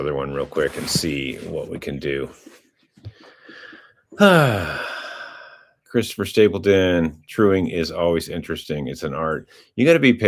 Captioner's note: sighs